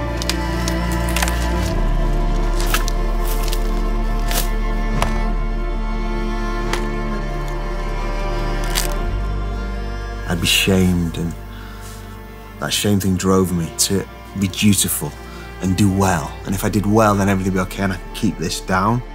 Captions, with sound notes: (branches snapping) (ax thudding) I'd be shamed, and that shame thing drove me to be dutiful and do well. And if I did well, then everything would be okay and I'd keep this down.